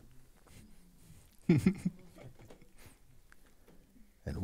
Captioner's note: questioner laughs